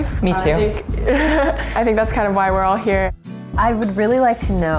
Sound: laugh

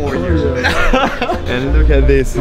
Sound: laughs

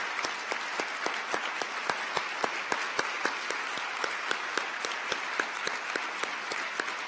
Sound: applause

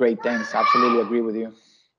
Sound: child yelling

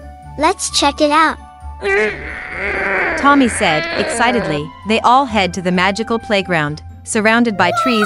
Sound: excitedly

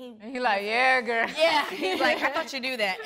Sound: laughing

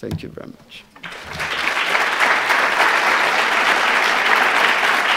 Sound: audience applauds

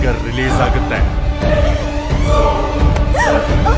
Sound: bomb beep

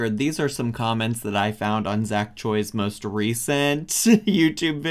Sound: laughs

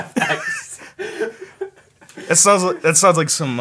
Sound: laughing

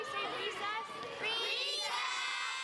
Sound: girls cheering

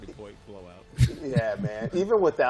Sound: laughter

